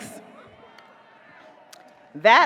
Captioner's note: audience cheers